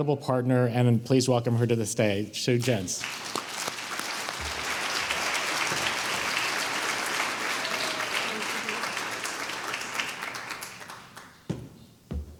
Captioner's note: applause